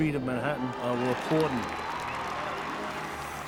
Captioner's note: people cheering and clapping